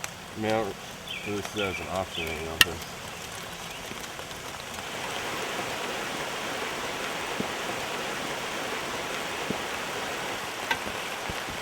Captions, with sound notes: I mean, I don't really see that as an option right now, 'cause... (rain dropping)